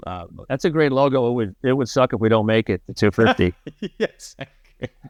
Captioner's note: laughter